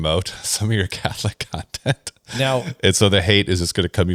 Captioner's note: laughs